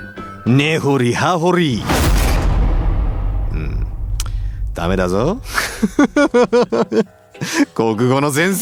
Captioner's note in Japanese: 笑い